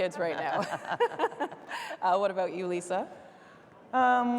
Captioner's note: laughing